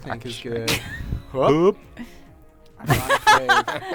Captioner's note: laughter